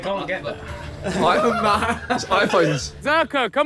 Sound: Sidemen laughing

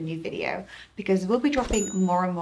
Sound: bell chimes

